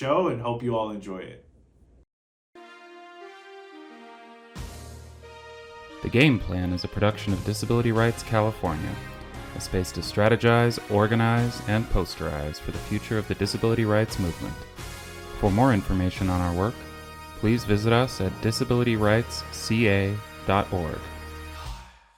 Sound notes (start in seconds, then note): 3.2 triumphant music fades in; 5.9 voiceover